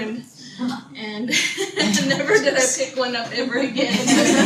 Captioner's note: audience laughter